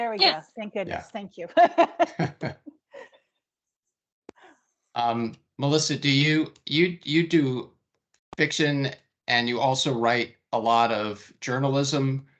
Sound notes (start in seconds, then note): 1.4 laughing